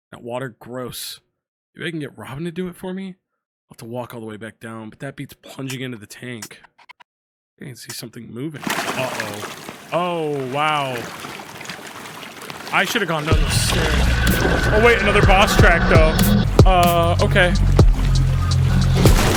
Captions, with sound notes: And that water. Gross. Maybe I can get Robyn to do it for me. I'll have to walk all the way back down, but that beats plunging into the tank. I think I can see something moving." (water sloshing) Uh-oh. Oh, wow. I should've gone down the stairs. (exciting music) Oh wait, another boss track, though! Uh... Okay!